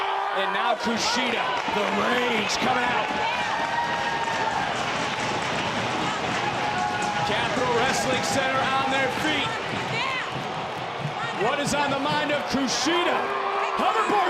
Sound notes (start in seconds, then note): 4.7 audience cheering